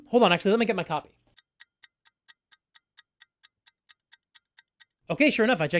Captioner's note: ticking clock